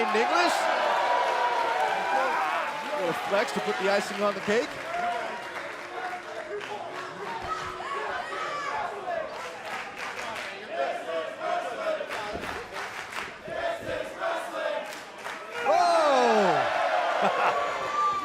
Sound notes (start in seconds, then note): 4.0 crowd cheering; 18.0 crowd chatter